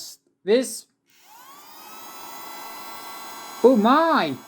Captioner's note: turns on vacumm cleaner